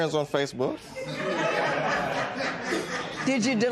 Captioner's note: laughter